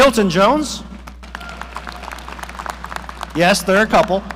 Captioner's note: audience applauding